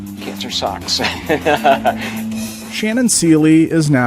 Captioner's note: laughs